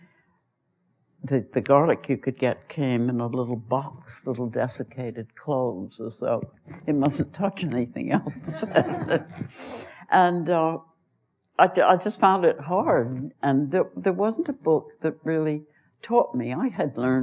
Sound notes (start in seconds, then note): 8.2 laughs; 8.2 laughter